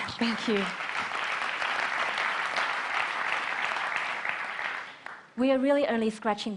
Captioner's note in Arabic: تصفيق